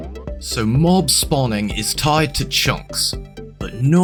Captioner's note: bad Australian accent